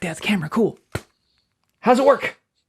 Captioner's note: smacks